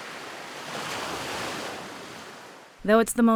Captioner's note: waves crashing